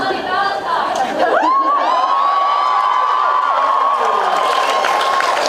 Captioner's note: laughs; cheers; cheers, applauds